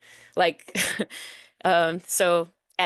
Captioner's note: chuckles